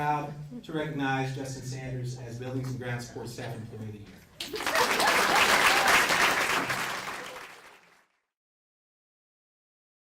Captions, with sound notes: as Buildings and Grounds Support Staff Employee of the Year. (applause)